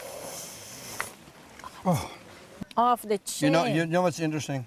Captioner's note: slurping sound